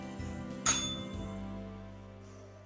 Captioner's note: bell rings